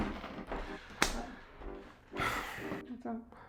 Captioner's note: sigh